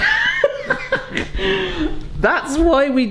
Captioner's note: laughs